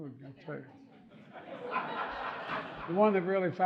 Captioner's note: audience laughing